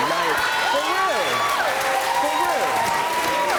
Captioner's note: audience cheering